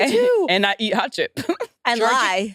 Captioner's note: laughs